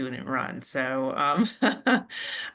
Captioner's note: laughs